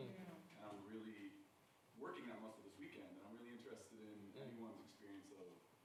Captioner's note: speaking faintly